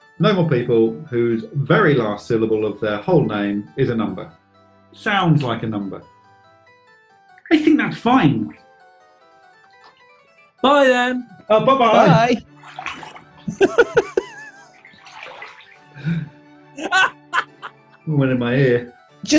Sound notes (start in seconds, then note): 13.4 giggling; 16.8 laughter